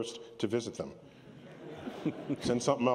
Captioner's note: laughter